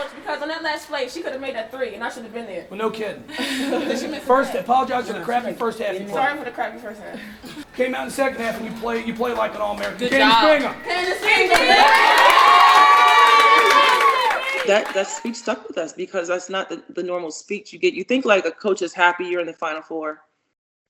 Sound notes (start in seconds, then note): 11.6 team cheering